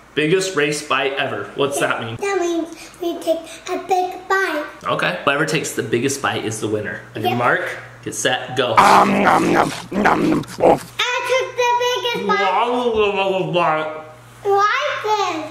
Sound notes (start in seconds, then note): 8.8 chomping noise